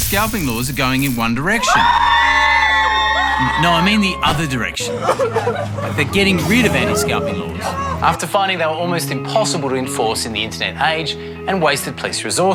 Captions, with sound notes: And there are regular calls for Federal anti-scalping laws too. But elsewhere in the world, anti-scalping laws are going in one direction... (All scream) No, I mean the other direction. Like, they're turning around. (All cry) ..after finding they were almost impossible to enforce